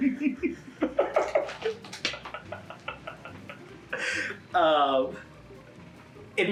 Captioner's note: laughing